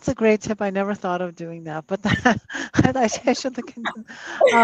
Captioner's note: chuckles